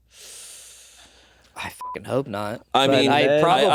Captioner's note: beeping